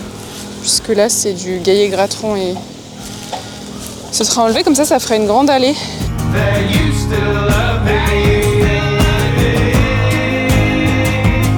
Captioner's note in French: chant